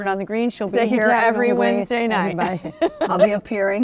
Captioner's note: laughs